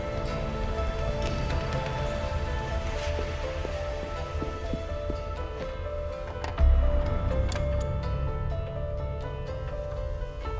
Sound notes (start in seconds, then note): 2.8 footsteps thudding; 2.8 tense music continues